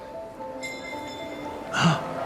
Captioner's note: bell clinking